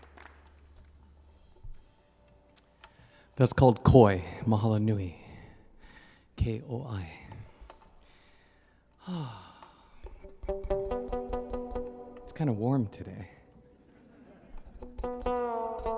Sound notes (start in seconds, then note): 9.8 sighing heavily; 10.0 guitar strumming